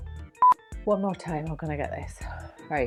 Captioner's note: signal beeps